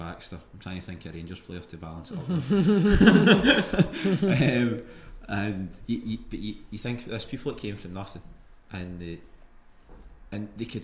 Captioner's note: group laughs